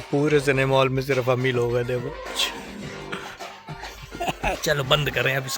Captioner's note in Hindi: हंसी